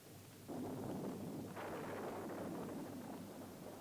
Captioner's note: thunder rumbling